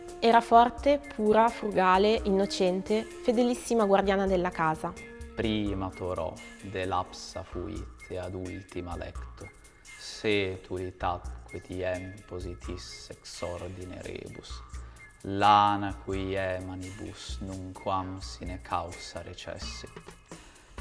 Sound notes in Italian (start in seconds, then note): 5.1 voce legge in Latino